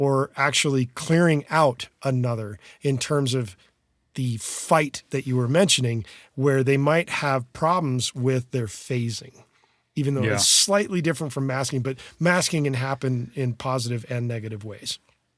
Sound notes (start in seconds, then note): none